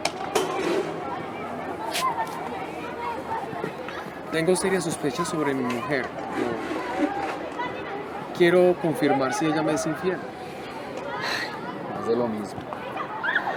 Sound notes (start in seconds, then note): 1.3 crowd noise in background